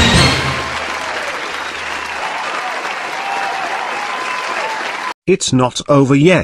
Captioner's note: audience Cheering